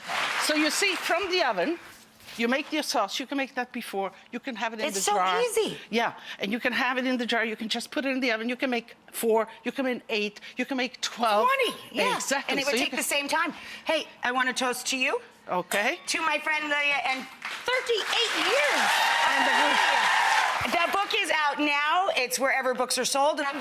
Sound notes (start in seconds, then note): 19.3 audience applauds and cheers